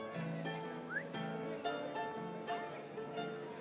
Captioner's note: whistles